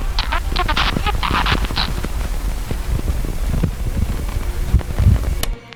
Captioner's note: distortion and static; click